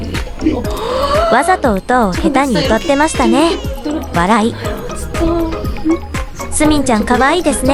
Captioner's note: laughs